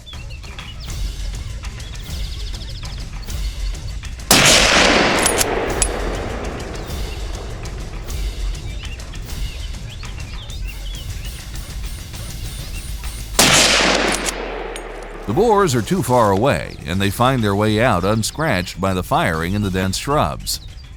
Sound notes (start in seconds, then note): 0.2 dogs barking; 4.3 gunshot; 13.3 gunshot